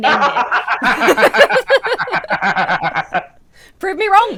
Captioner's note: both laugh